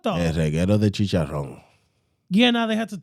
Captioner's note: speaking In Foreign Language